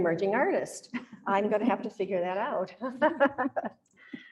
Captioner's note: laughs